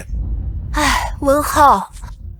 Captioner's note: sigh